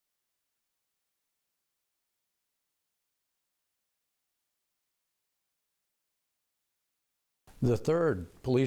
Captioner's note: silence